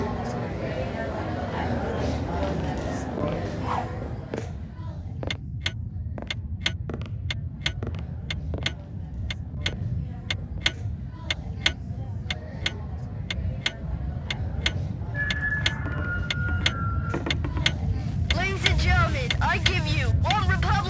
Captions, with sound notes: (ticking) (mic feedback) - Ladies and gentlemen, I give you OneRepublic!